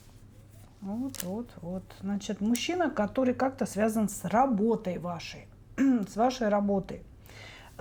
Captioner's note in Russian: откашливается